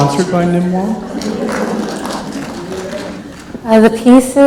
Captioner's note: clapping